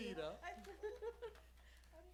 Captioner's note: laughs